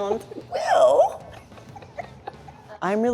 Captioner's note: laughs